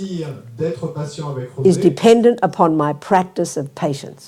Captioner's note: speaking in French